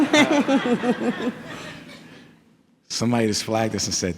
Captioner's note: people laughing